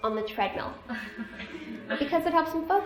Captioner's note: laughter